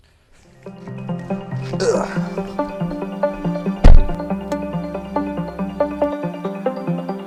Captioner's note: door opens